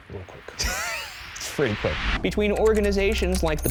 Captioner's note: laughing